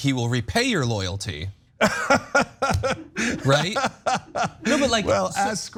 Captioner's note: laugh